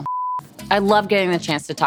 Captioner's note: beep